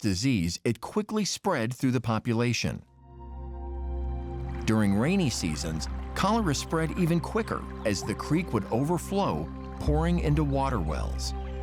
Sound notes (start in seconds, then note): 4.3 river flowing